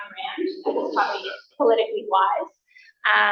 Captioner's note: coughs